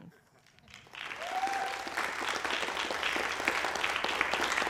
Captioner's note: applause, cheering